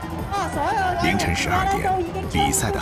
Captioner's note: game sounds